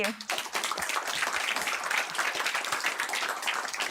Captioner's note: applause